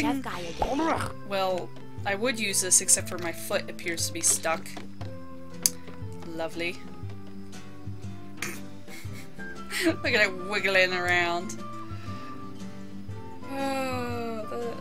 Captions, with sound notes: I am, however, using- Well, I would use this except my foot appears to be stuck. Lovely. (Snort) Look at 'im wigglin' around! (sigh) Oh...